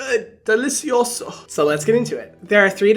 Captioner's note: speaking in foreign language